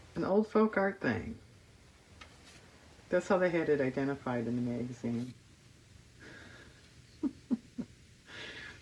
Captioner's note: laughs